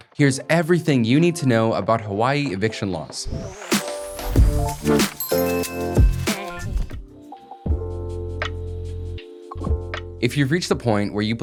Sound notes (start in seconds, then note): 2.5 upbeat electronic music; 4.1 logo tinkling; 7.2 chill hip-hop music